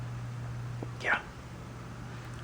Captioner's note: whispers